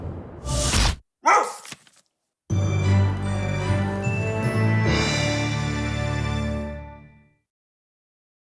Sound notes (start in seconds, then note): 1.2 dog barks